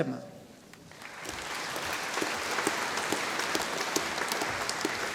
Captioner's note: audience applauding